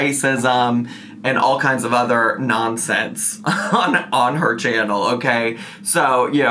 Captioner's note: chuckles